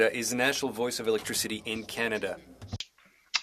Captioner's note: speaking French